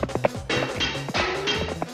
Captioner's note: clattering